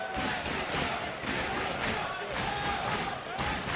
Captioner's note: audience cheering